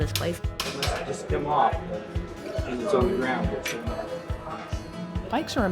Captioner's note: bike being repaired